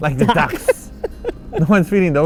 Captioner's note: laugh